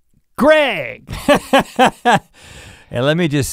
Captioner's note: laughing